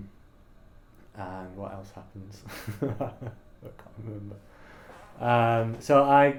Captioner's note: laughs